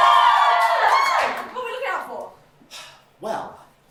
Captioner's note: audience cheering